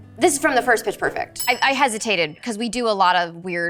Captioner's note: bell dings